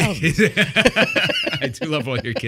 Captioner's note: laughing